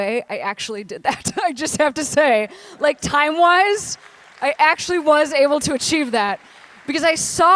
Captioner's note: applause